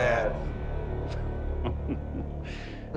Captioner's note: chuckles